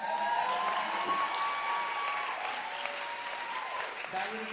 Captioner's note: audience cheering and applauding